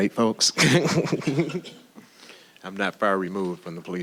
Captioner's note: laughing